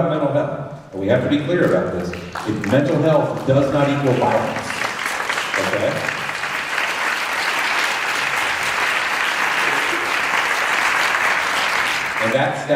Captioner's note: applause